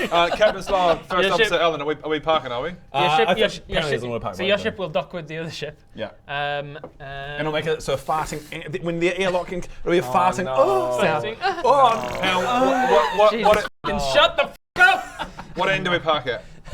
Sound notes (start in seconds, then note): 11.7 ooh; 11.9 pfffpt